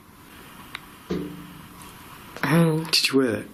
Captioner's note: tapping